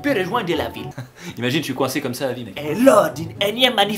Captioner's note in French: rire